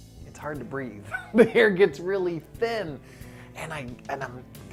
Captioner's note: laughs